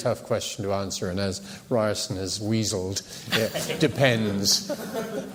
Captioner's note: laughter